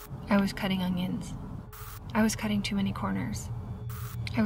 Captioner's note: static crackles; static crackles